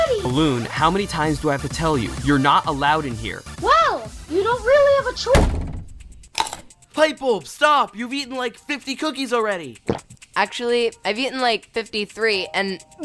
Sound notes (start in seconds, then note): 5.3 slam; 6.3 crunch; 9.8 gulp